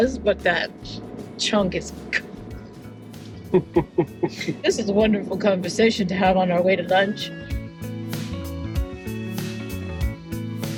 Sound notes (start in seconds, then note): 3.4 both laughing; 7.9 upbeat music